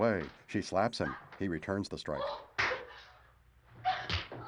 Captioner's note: screams